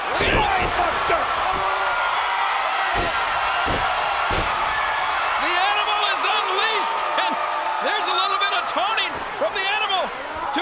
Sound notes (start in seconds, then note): 1.7 crowd cheering; 2.9 feet stomping